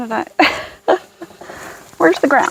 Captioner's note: laughing